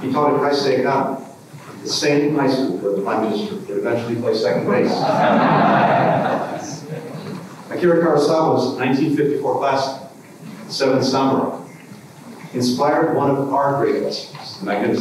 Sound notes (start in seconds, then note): 4.8 laughter